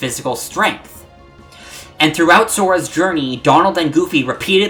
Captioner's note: breathe